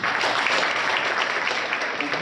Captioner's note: applause